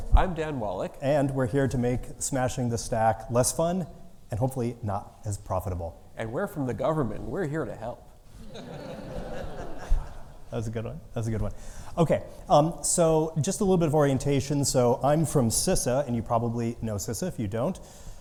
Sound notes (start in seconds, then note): 8.4 audience laughing